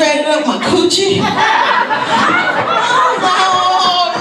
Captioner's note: audience laughs